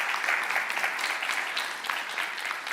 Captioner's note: applause